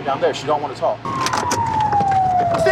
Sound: police sirens

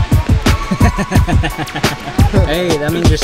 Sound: chuckling

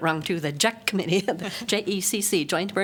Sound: laughter

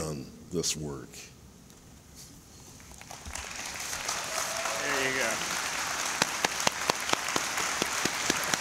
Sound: applause

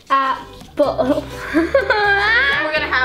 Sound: cries

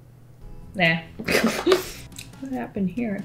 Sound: laughs

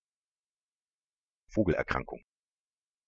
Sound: fast Pronunciation

